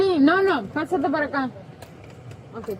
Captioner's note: speaking in foreign language